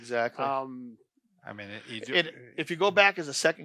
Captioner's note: stammers